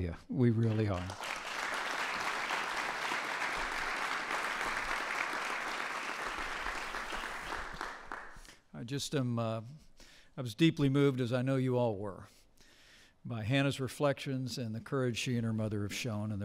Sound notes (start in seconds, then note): 1.0 applause